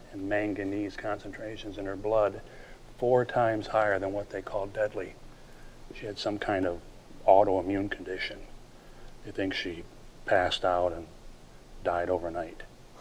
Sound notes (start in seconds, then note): none